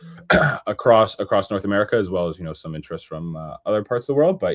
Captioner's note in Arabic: يُصفّي حلقه